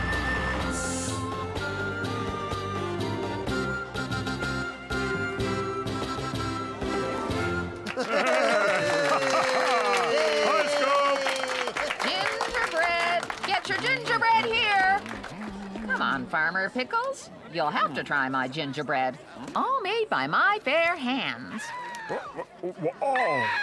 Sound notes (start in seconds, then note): 7.8 applause